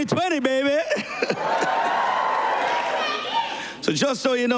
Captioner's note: cheers and applause